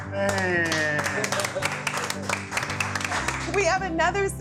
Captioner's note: clapping